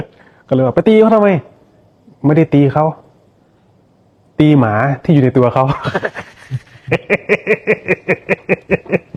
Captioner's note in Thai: เสียงหัวเราะ